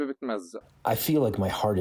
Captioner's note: through translator